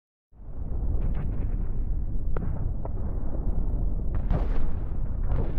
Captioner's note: distant explosions booming